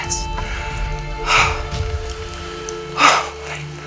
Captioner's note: loud exhales